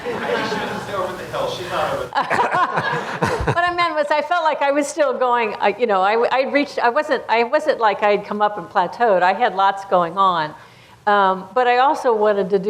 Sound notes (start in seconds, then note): 2.1 laughter